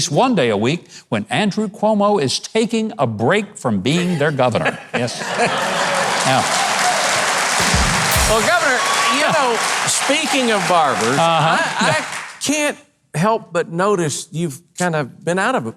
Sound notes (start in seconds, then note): 5.0 laughs; 5.2 audience applauds